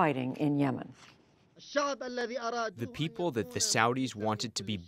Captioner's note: through translator